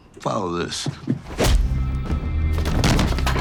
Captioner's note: dramatic music; body thuds; fist thuds